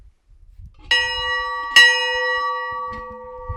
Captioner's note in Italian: suono della campana